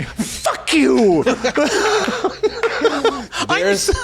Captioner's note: laughing